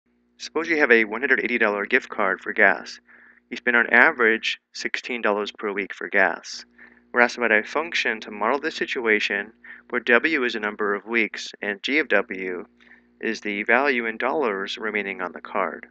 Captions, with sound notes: - [Voiceover] Suppose you have $180 gift card for gas. You spend on average $16 per week for gas. We're asked to write a function to model the situation where w is the number of weeks and g of w is the value in dollars remaining on the card.